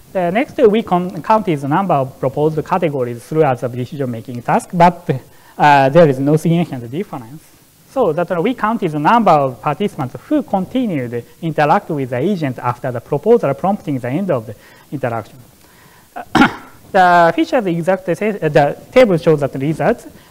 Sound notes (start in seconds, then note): 16.1 coughs